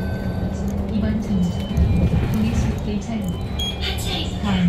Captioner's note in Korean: 하차벨 소리